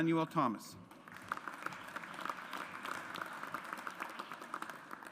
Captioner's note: audience applauds